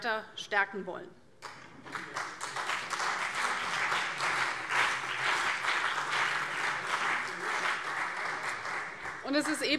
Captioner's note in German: Beifall CDU und BÜNDNIS 90/DIE GRÜNEN